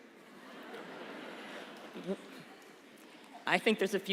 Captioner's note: laughter